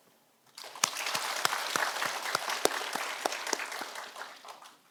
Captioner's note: audience applauding